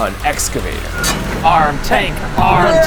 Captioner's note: metal clinking